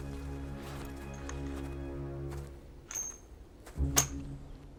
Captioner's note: coins clinking